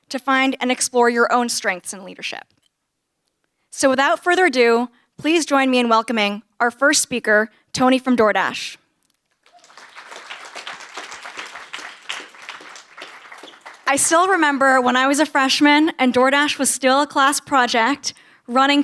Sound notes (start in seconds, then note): 9.3 applause